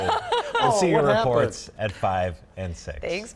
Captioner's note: laughter